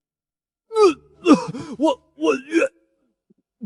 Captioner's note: gags